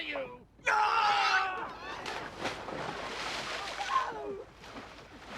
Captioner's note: Jerry yells